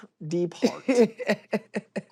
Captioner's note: laughs